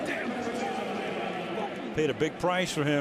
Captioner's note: pa announcement